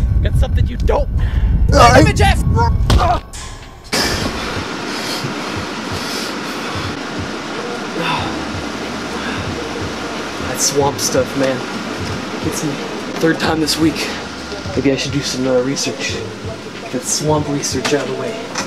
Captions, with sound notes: Got something you don't (My name Jeff suffering sound) (Painful hit sound) That swamp stuff man, It gets me. Third time this week Maybe I should do some uhh research Get a swamp research out of the way